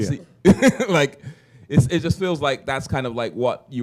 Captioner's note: chuckle